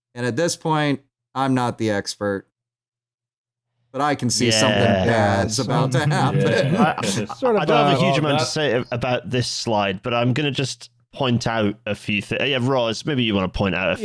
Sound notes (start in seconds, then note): 4.4 chuckles